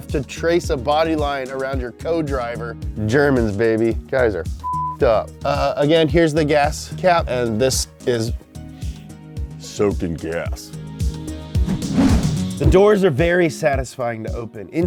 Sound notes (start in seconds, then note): 8.6 sniffs